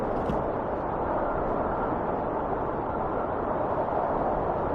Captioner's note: wind whistling continues